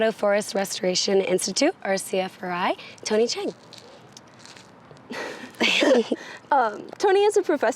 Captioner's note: laughs